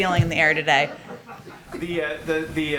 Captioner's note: laughter